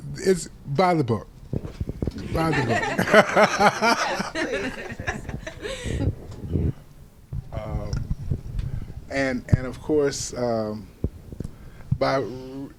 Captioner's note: laughter